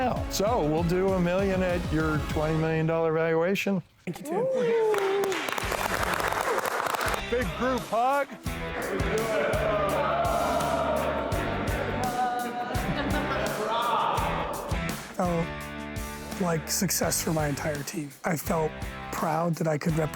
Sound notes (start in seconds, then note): 4.5 audience applauding; 8.8 upbeat music; 13.3 audience cheering